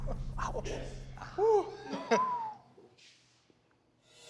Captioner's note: whistles